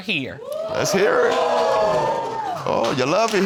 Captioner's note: audience hooting